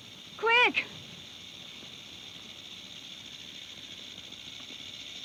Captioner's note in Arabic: خشخشة الثعبان